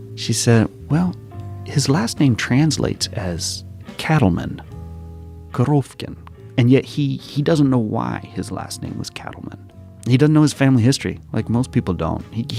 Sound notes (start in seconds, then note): 4.2 Russian language 00:20:07